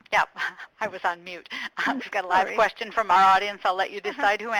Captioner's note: chuckles